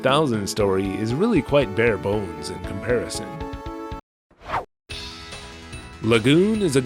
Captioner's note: whoosh!